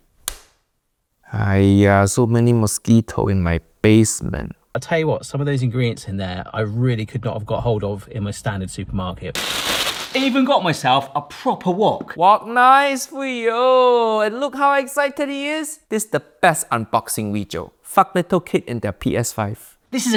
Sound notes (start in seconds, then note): 0.1 hand slaps; 9.3 plastic crinkling